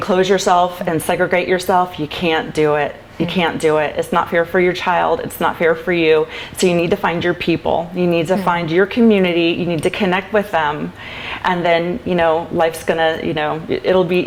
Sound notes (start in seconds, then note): 6.6 laughs